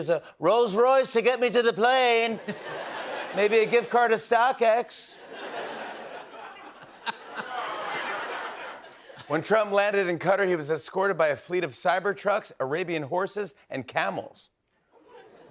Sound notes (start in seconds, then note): 5.1 laughter